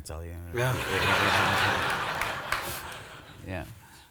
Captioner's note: audience laughs